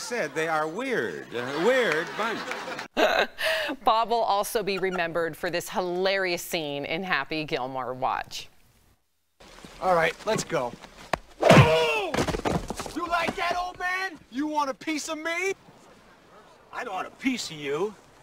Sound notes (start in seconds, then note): 4.6 laughter